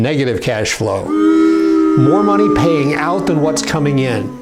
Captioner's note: booing